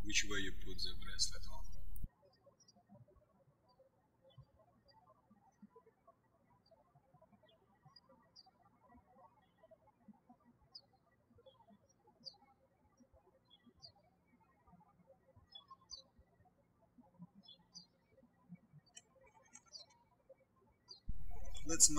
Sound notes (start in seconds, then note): 4.3 birds chirping